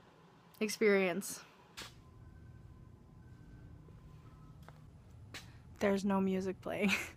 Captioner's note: silence in store